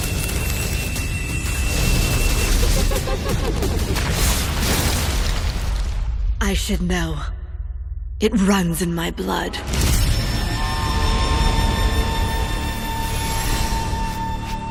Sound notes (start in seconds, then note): 0.0 epic Chinese-style music playing; 4.6 demonic laughter